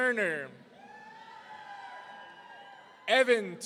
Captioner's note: audience cheering